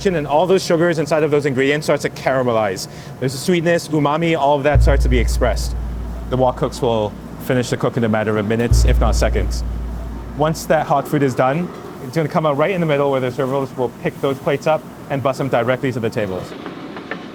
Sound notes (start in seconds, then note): 8.6 text booming